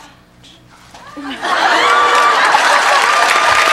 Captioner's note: audience laughs; audience claps